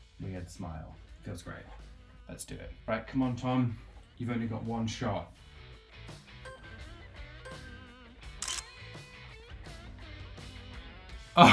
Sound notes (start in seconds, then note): 6.4 timer counting down; 8.4 camera shutters